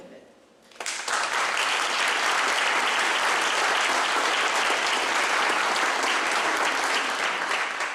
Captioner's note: clapping